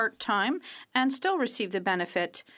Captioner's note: speaking French